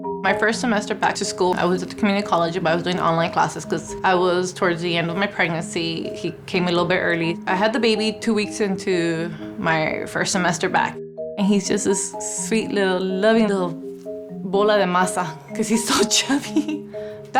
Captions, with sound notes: My first semester back to school I was at the community college, but I was doing the online classes 'cause I was towards the end of my pregnancy. He came a little bit early. I had the baby two weeks into my first semester back. And he's just this sweet little loving little (speaking Spanish) 'Cause he's so chubby (laughing).